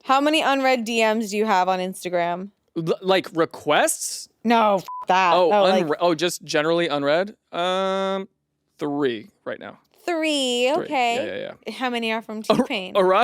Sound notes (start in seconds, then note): 4.8 beep